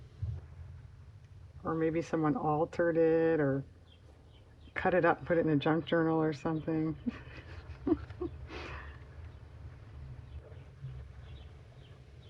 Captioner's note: laughs